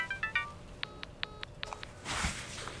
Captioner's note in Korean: 스마트폰 소리